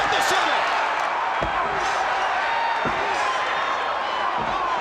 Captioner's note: crowd cheering